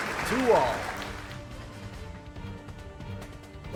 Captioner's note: audience claps; dramatic music